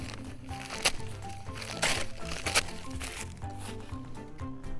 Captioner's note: paper ripping; upbeat music